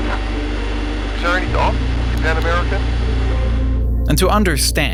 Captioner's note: captain speaking in foreign language; flight engineer speaking in foreign language